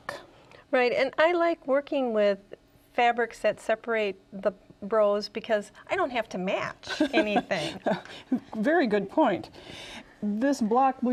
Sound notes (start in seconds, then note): 6.9 laughing